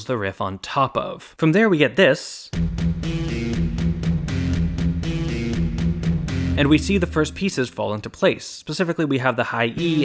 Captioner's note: bang